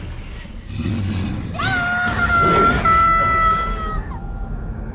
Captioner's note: screams